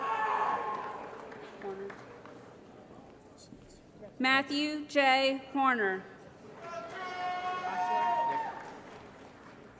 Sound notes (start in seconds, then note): 0.1 applause & Cheering; 6.6 applause & Cheering